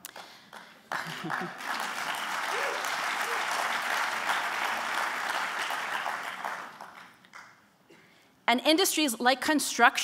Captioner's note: applause